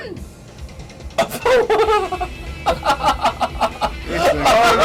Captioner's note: laughs